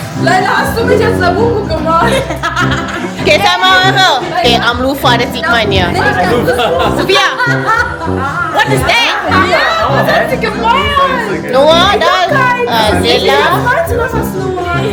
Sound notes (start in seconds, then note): 0.0 speaking German; 0.3 laugh; 0.3 speaking German; 9.5 speaking German